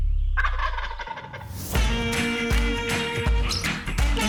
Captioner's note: turkey gobbling